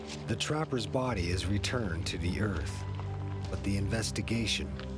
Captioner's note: voiceover